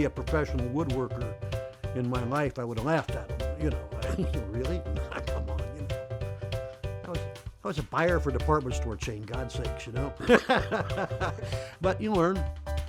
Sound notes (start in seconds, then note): 4.9 chuckle; 10.2 laughs